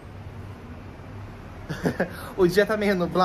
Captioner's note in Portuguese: risos